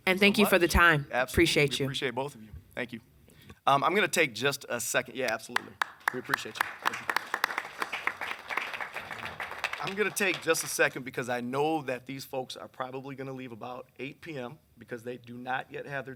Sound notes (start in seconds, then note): 7.1 applause